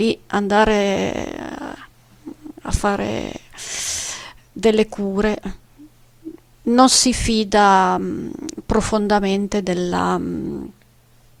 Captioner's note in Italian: sbuffare